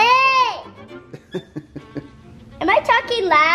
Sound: chuckles

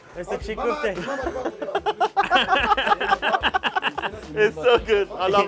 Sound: laughs

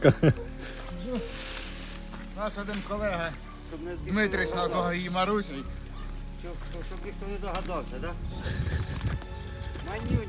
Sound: laughter; laughter

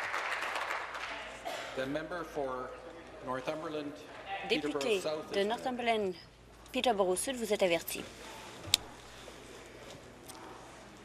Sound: applause

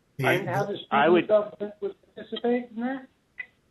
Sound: murmur

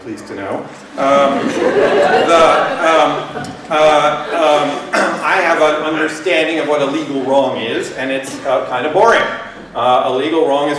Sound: laughter

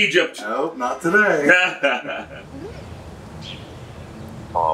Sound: laughing

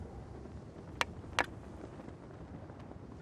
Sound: tapping stick

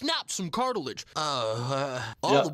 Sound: Mr. Garrison groans

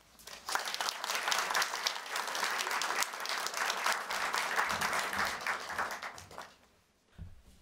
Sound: applause

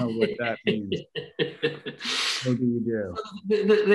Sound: laughs

